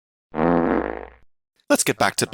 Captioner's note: fart sfx